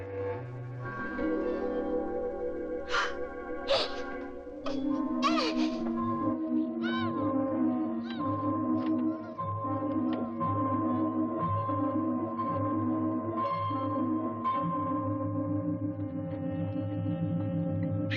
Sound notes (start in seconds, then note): 2.9 Sandy gasps; 5.0 muffled yelling; 5.4 dramatic music